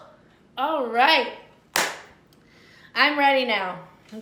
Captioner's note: clapping